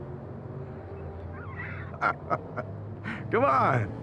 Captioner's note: laughs